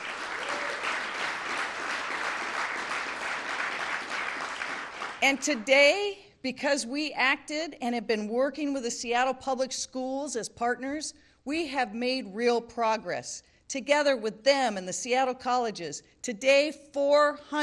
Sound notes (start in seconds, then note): 4.8 applause